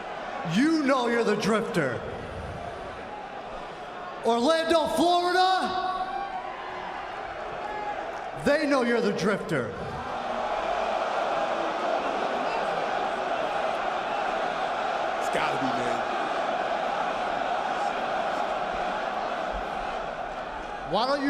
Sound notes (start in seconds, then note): 11.6 cheers and boos